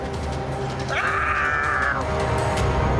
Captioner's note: screams